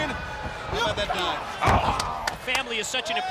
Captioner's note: body thudding; hands clapping